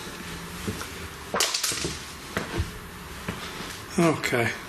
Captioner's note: clattering